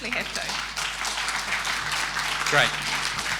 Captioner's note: audience applauding